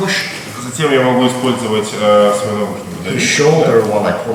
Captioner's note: speaking in a foreign language